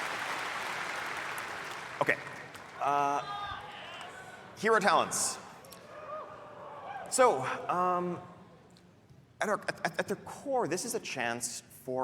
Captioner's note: applause